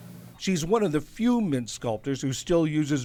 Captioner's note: voice-over